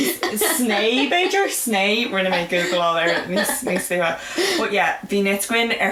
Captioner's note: laughs